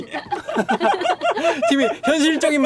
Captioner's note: laughter